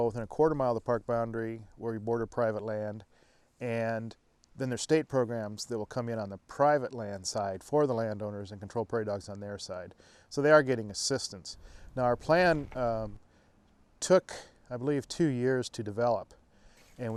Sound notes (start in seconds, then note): none